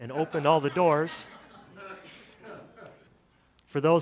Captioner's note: audience laughter